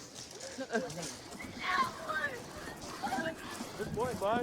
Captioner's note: yelling